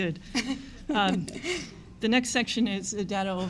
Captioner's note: laughs